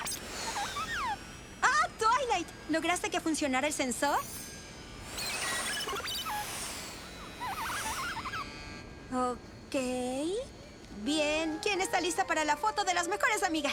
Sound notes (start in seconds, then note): 5.0 beeping